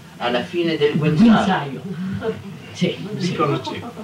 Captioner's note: Italian